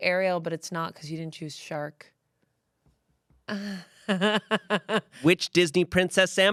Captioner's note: laughs